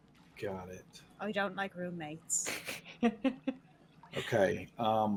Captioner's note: snickering